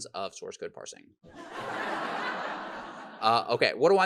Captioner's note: audience laughs